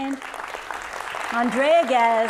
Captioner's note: audience clapping